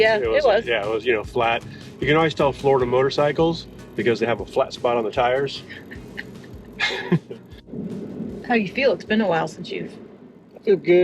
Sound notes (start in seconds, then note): 5.6 laughs